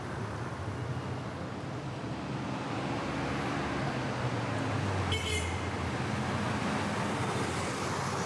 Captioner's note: city noise